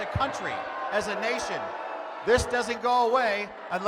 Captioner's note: loud boos